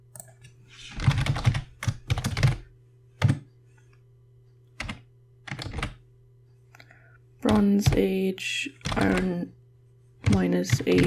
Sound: typing noise

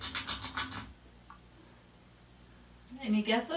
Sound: scraping

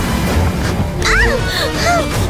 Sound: screaming

